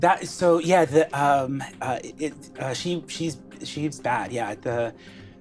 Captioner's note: stutters